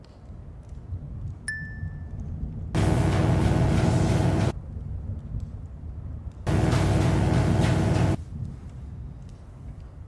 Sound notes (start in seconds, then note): 1.7 bell dings; 2.7 electric buzzing; 6.5 electric buzzing